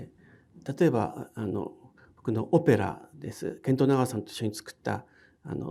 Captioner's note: speaking in foreign language